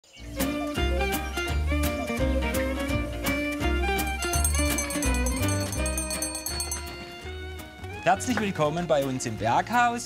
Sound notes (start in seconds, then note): 2.1 cheerful music; 4.0 bell rings